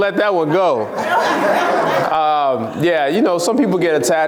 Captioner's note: laughs